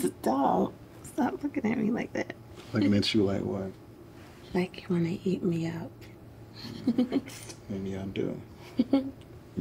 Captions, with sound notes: Stop, stop looking at me like that. - Looking at you like what? - Like you want to eat me up. (giggles) - Maybe I do.